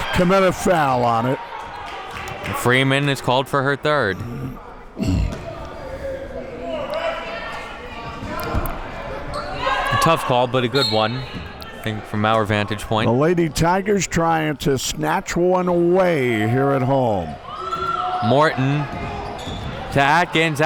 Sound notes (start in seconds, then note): 10.8 whistle blows